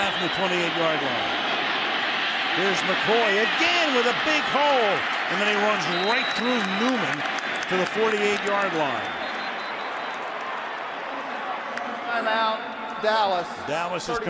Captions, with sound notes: First down from the 28-yard line. Here's McCoy, again, with a big hole. And then he runs right through Newman to the 48-yard line. [whistles] Timeout, Dallas.